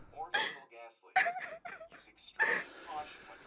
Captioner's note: woman crying